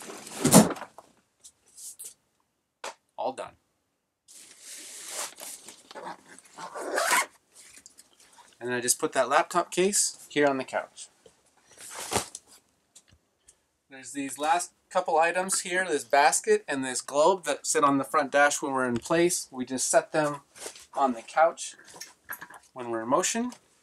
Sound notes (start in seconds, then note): 0.3 drawer sliding and locking; 5.9 zipper zipping